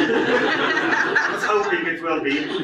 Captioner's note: audience laughs